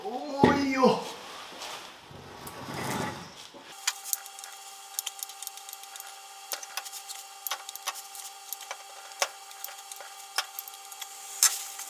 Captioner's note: working sound